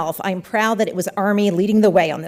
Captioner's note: none